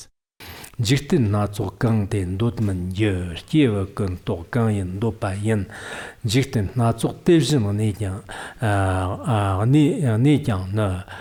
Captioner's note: giving oral transmission in Tibetan